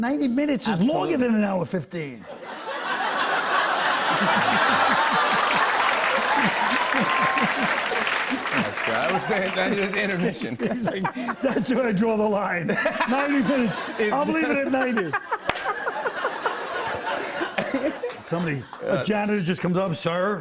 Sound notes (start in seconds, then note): 3.1 laughter; 6.0 cheers and applause